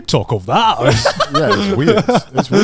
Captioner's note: laughing